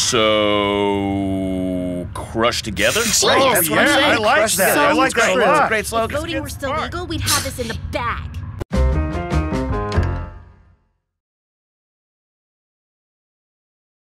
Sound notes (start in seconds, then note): 2.8 murmurs of approval